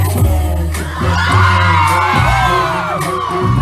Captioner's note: crowd going wild